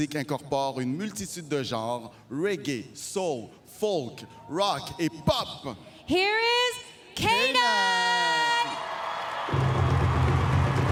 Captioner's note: speaking french